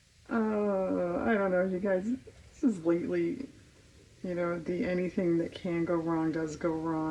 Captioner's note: laughs